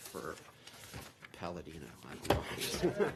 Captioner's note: laughter